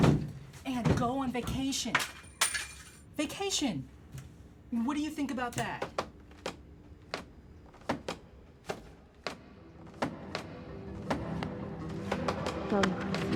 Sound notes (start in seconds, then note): 6.7 books falling over